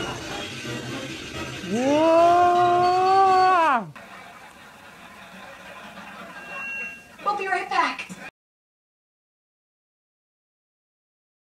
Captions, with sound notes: (all scream) We'll be right back.